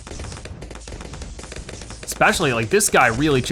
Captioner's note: weapons firing